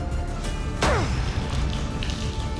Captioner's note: grunt